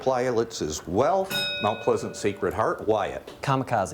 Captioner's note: bell rings